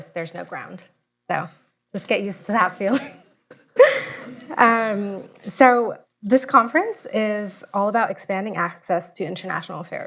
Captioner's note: laughter